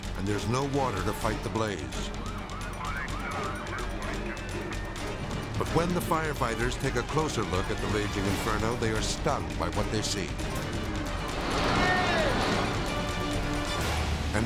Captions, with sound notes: and there's no water to fight the blaze. (siren wailing) (intense orchestral music) But when the firefighters take a closer look at the raging inferno, they are stunned by what they see. - Hey!